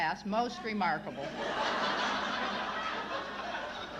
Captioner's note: laughter